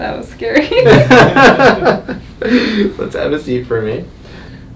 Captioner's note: laughs